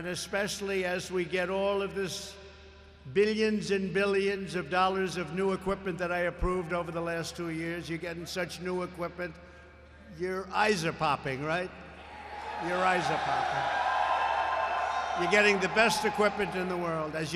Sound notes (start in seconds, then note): 12.8 applause